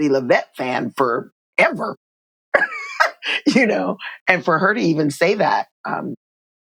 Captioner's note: laughter